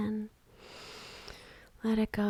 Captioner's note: inhales